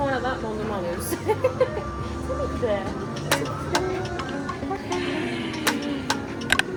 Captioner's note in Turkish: kahkaha